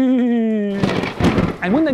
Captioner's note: thunder